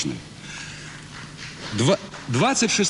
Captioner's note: applause